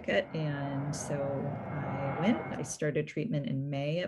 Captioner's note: engines humming